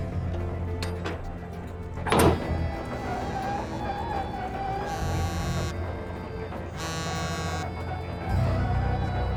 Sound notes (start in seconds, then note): 2.0 lever clangs; 3.0 winch creaking; 6.7 cell phone vibrating